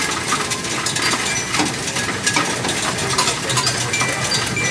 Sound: phone chiming

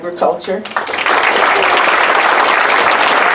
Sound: applause

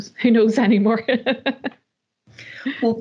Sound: laughs

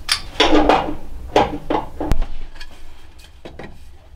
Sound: pipes clattering

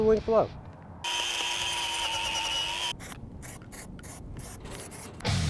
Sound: mechanical whirring

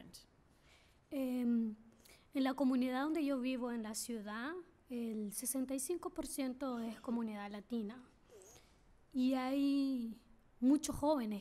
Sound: speaking spanish

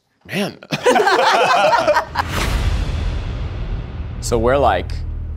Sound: all laughing

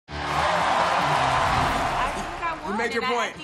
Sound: audience cheering

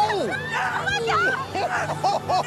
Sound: laughs

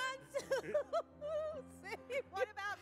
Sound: laughs

